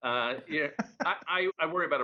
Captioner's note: laughter